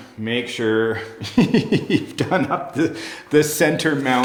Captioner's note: laughs